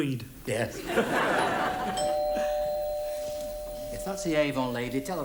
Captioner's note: doorbell rings